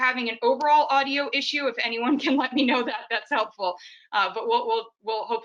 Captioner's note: laughs